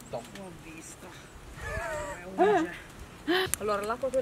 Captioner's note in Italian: risata